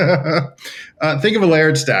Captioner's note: laughs